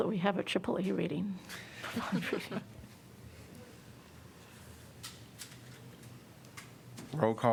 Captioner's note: laughter